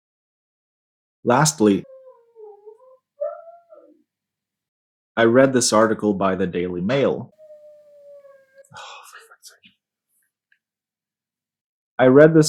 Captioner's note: dog noises